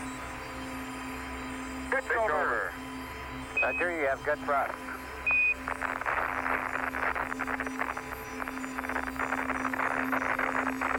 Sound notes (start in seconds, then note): 1.2 NASA radio communications continue; 5.0 beeps